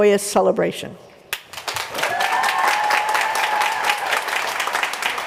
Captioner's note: applause